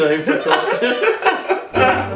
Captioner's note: laughing